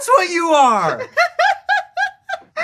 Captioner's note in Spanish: risas